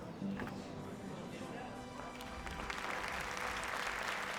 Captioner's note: crowd applauding